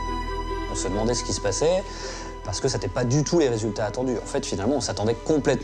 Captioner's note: despondent music; man speaks in foreign language